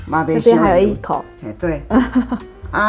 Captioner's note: laughs